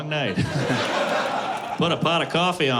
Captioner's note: laughter